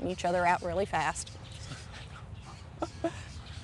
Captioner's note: laughter